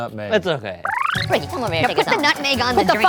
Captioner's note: film rewinding